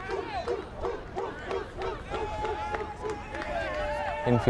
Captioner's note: fans chanting